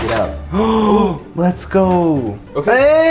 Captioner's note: exclaims